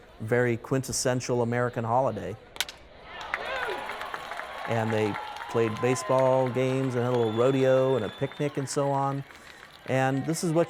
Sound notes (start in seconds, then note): 4.0 bat cracks; 4.0 crowd cheers